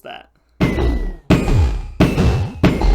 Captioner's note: ender dragon damage noises